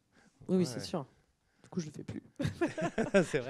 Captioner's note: laughs